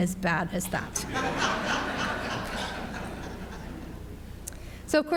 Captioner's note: audience laughs